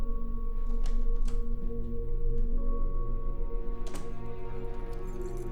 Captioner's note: door latch clicks; keys jangling